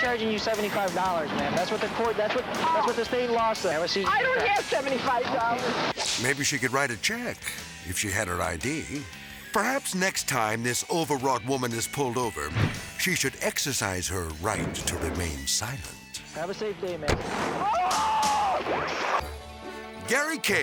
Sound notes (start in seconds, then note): 17.5 driver screaming; 17.6 transition whooping